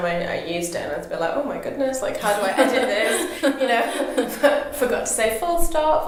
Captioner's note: both laugh